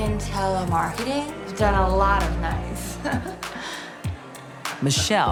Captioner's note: chuckles